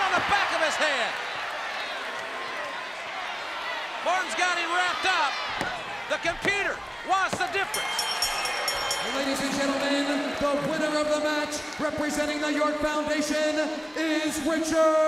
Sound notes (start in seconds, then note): 7.6 bell ringing